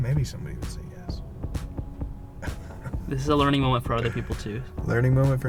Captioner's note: voiceover